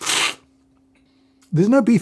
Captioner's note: slurping